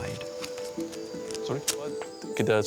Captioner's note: indistinct chatter